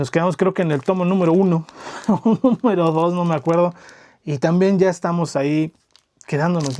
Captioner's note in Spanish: risas